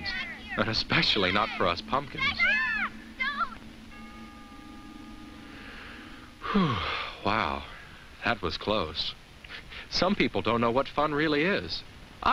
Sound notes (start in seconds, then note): 5.5 sighs